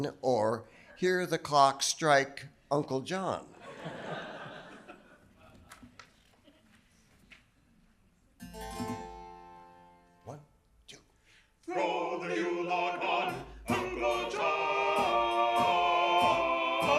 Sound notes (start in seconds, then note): 3.6 audience laughing; 8.5 virginal key playing